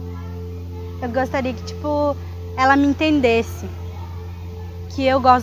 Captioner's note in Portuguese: vozes ao fundo